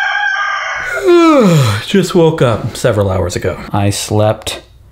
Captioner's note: rooster crows; yawning